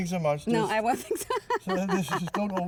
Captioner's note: laughter